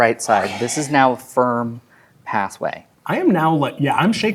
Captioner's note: whispers